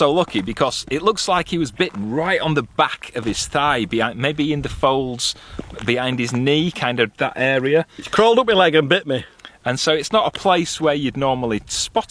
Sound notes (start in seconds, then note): none